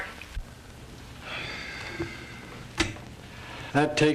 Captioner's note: Horton sighs